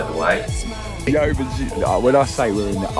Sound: laughing

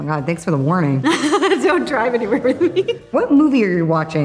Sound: laughs

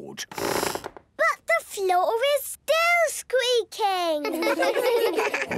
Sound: squeaks

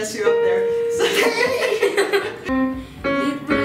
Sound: laughs

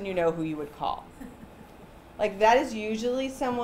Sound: chuckling

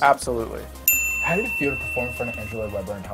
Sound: bell rings

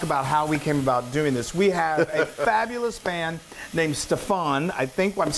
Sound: laugh

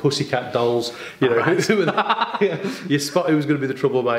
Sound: laughs

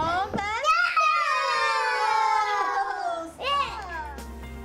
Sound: children yell indistinctly

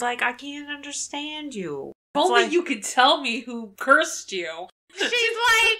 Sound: laughs

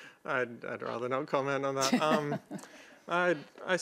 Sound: laughs

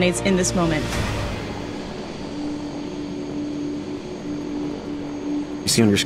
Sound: helicopters whirring

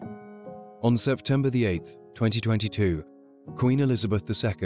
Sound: voiceover

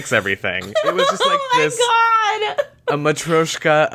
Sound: laughing

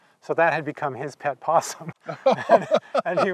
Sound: both laughing

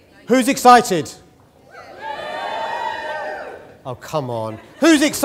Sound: cheering

